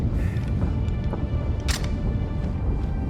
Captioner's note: gun clatters